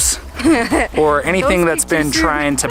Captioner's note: laughing